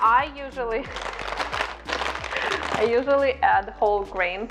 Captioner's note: laughing